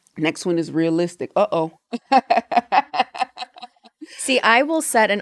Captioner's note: laughs